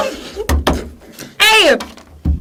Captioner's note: screams